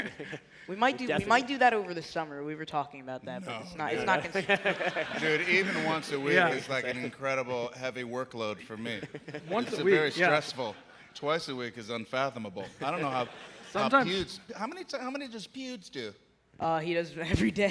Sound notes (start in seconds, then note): 8.6 laughter